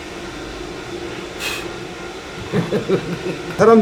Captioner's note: blows